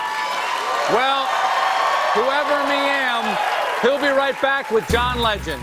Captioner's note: cheers and applause